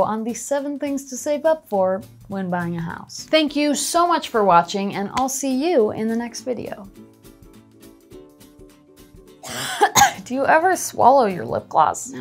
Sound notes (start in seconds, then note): 7.9 coughing; 7.9 upbeat music